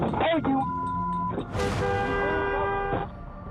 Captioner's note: vehicle honks